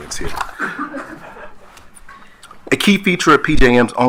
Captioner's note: attendees laughing